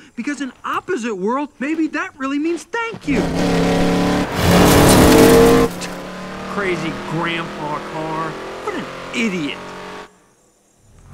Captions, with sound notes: Because an opposite world, maybe that really means thank you. (Lightning revs) Crazy grandpa car. What an idiot.